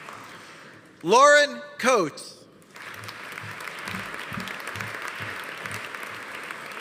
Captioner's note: audience applauding